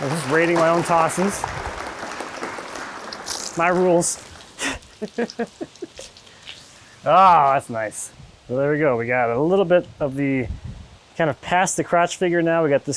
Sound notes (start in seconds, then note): 4.4 laughing